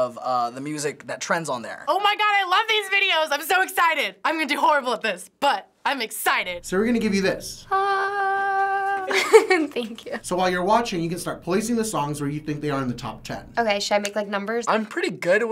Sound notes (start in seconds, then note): 7.8 laughs; 7.8 imitates heavenly choir